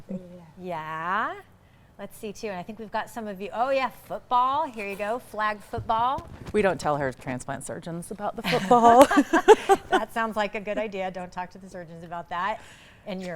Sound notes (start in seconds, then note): 8.4 laughing